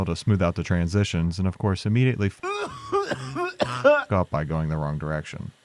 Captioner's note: coughing